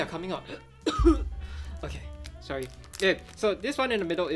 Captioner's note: coughs